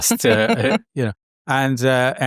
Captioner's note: chuckles